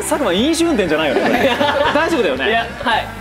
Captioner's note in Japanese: 笑い